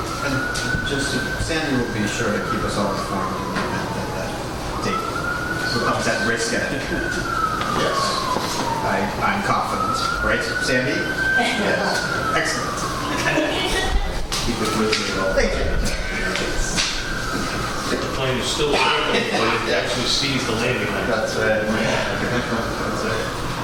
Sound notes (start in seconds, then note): 13.1 laughter